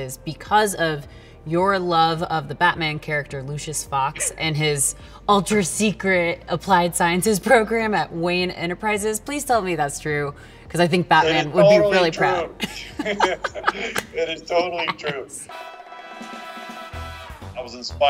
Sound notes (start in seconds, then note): 12.5 both laughing; 15.6 bright music